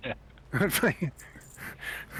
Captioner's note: laugh